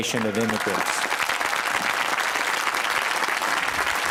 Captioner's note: applause